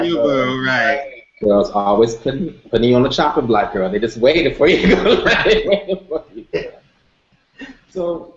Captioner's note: laughter